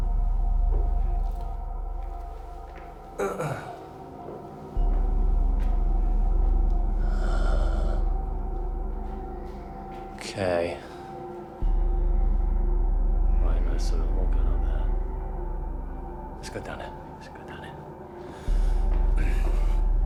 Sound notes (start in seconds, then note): 3.2 Danny clears throat; 6.5 suspenseful music